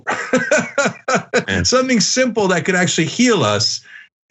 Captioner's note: laugh